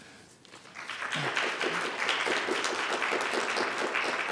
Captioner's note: audience clapping